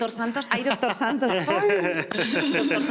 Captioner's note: laugh